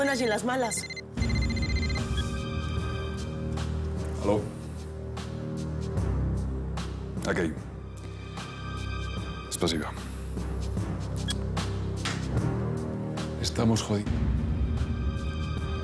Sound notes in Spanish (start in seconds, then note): 0.7 Suena celular; 7.0 Habla en otro idioma